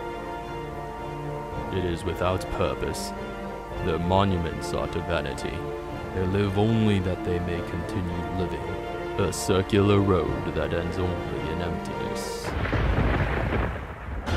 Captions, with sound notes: It is without purpose. Their monuments are to vanity. They live only that they may continue living. A circular road that ends only in emptiness. *thunder*